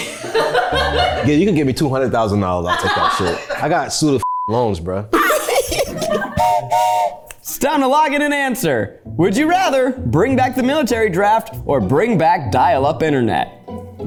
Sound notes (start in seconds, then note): 0.0 everyone laughs; 5.1 everyone laughs; 6.3 whistle blows